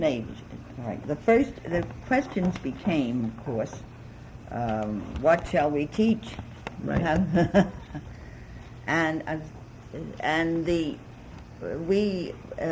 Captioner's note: laughs